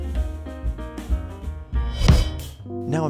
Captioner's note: teleportation Noises